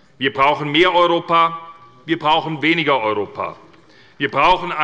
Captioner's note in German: none